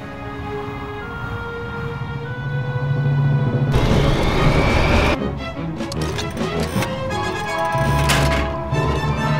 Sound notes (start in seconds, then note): 5.9 metal straining